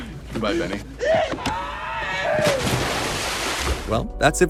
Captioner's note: screams